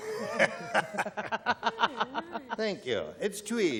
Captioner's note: laughter